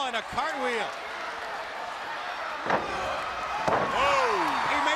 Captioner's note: crowd chatter